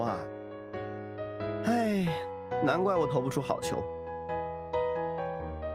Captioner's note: sigh